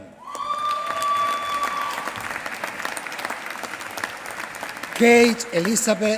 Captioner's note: applause